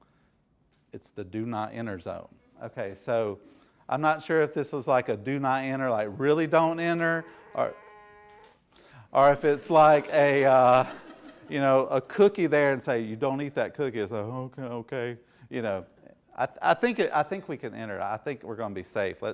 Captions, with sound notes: It's the do not enter zone. So I'm not sure if this is a do not enter like a really don't enter-- (buzzing) (laughing) Or if it's like a cookie there and it's like "You don't eat that cookie." "Okay, okay." I think we can enter, I think we're gonna be safe.